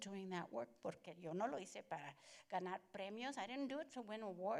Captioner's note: Spanish language